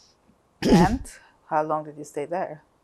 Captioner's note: clears throat